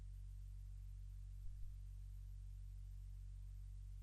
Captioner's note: none